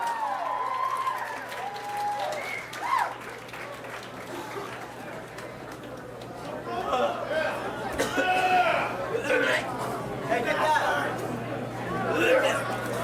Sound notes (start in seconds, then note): 0.0 audience cheering; 8.0 puking